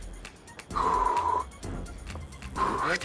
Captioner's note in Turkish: Nefes sesi